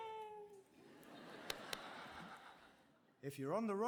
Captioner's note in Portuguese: audience laughing